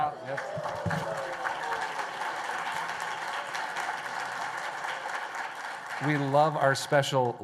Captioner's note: applause